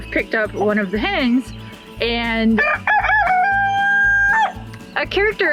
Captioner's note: rooster crows